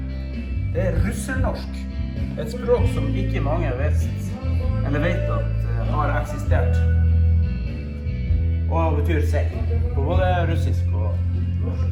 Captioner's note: mix of Russian and Norwegian